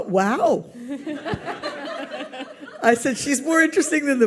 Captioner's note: audience laughs